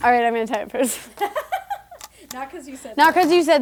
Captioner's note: laughing